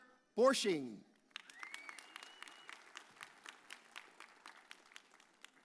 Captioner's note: audience cheers